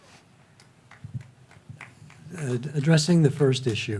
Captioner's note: faint clapping